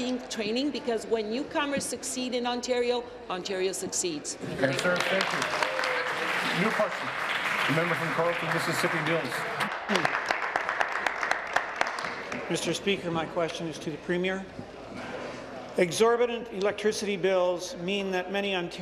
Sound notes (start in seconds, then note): 9.4 applause